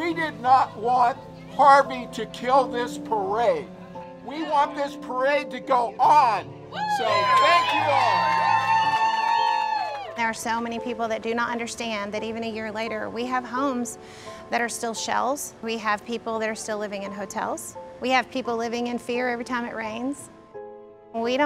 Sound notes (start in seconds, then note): 6.7 cheers